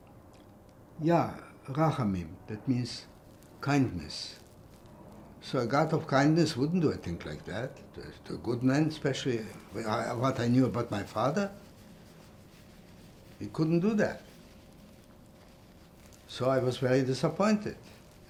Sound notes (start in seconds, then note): 0.0 pauses 6 seconds; 1.4 hebrew